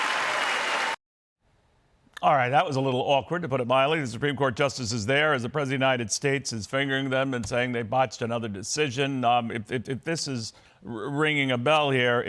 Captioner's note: cheers and applause